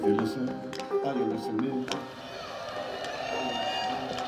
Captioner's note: crowd cheers